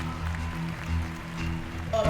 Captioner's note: applause